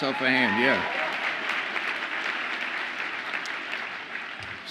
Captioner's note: audience applauds